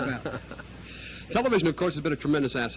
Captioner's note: laughs